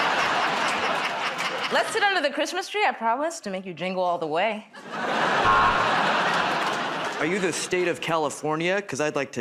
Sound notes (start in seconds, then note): 0.0 laughter; 5.4 buzzer